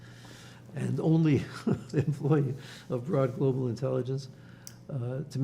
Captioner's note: laughing